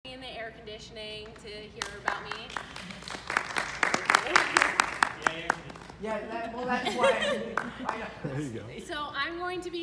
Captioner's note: applause